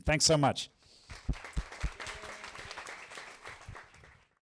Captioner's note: applause